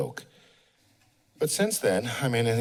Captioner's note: pause